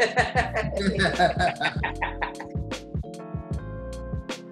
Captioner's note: laughing; relaxed music